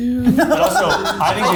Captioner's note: laughing